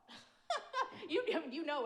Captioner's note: laughs